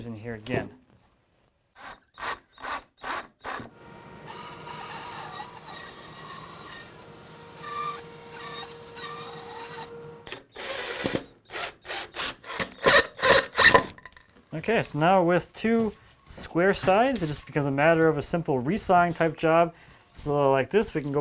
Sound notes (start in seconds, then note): 4.0 machine sawing; 10.3 drill whirring